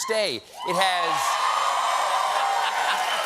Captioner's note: cheers and applause